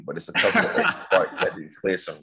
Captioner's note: laughing